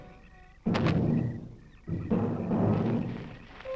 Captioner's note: thud